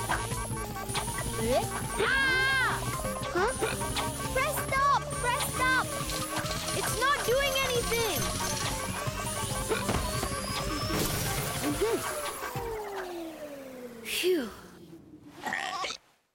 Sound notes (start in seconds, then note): 2.1 screaming; 2.7 beeping continues; 11.2 machine powers down; 15.4 burp! hiccup!